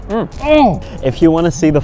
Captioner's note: groaning in disgust